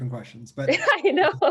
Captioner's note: laughter